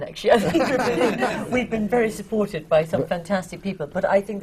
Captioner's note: laughter